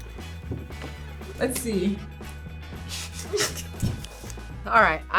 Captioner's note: both laugh